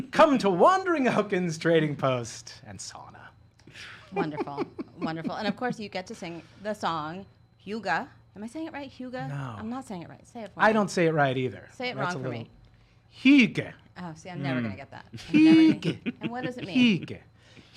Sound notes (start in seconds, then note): 3.8 laughing